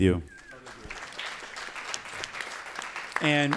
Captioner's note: applause